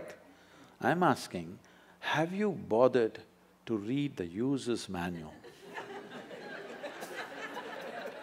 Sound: laughter

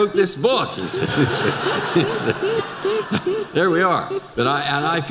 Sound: audience laughter

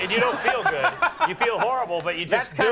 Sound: Conan laughs

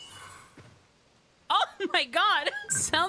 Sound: laugh

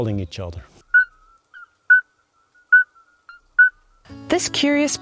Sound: toad calling

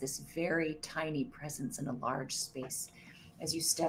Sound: none

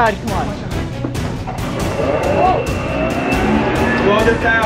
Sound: machine whirring

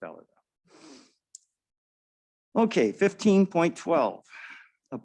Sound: blowing nose

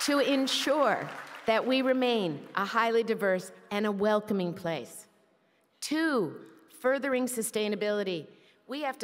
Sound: applause

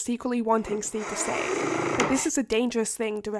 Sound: sound of window closing

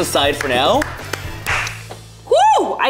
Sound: clapping

